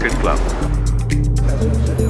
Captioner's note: engine rumbling; dinging